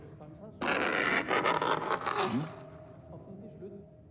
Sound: pencil scratching loudly

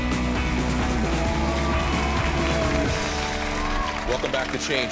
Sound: upbeat music; audience applauding

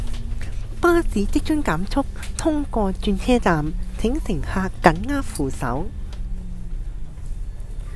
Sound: only in Cantonese

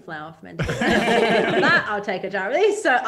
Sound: all laugh

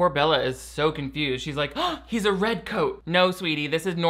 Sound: gasping

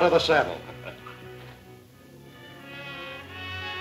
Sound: laughing; dramatic music

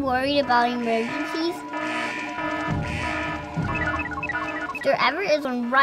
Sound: alarm

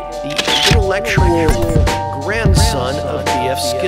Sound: cameral clicking

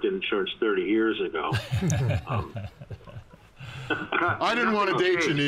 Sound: men chuckling

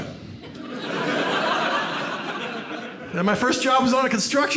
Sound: audience laughs

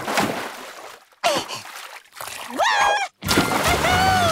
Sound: none

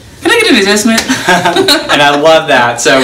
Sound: laughs

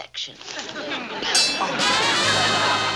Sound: bell dings

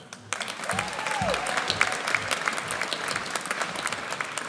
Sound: audience applauds

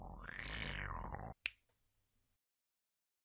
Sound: click!

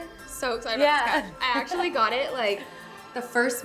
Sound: chuckles

